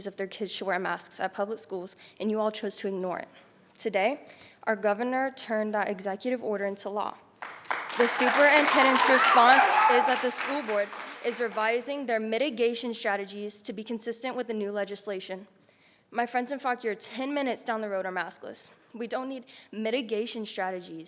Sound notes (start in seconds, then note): 7.4 audience cheering